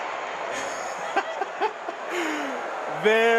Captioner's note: laughing